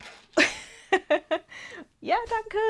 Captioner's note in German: Gelächter